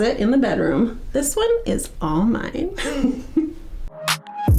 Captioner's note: giggles; upbeat music